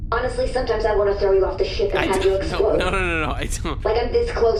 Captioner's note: worriedly